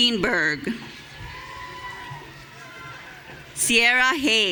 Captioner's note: audience cheering